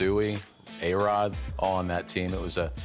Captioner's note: none